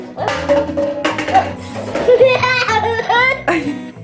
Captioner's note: cups falling